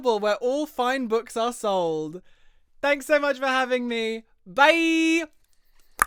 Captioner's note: tongue pop